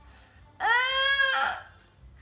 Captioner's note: groans